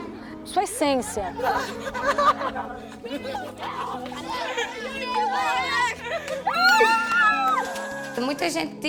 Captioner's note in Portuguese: risos